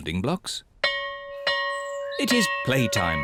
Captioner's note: bell rings